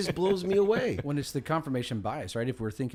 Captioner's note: Champ laughs